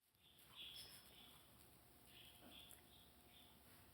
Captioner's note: birds chirping